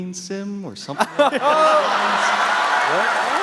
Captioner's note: laughter